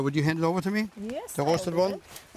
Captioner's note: rustling